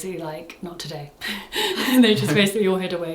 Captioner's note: laughs